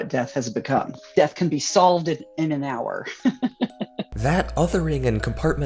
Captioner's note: chuckling